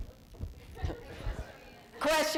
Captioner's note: thumping